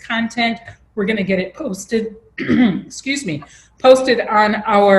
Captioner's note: coughs